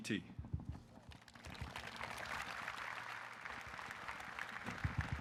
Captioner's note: audience applauding